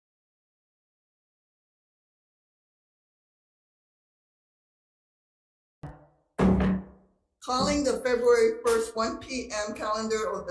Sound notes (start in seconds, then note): 6.4 gavel bangs